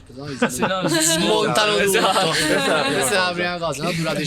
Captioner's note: laughter